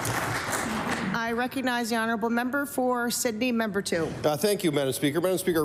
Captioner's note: applause